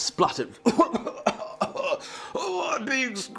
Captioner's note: coughing & Splutteriing